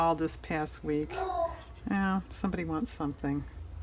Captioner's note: dog barks